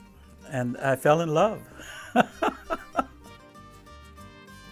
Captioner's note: laughing